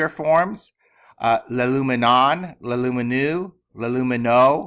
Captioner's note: speaking greek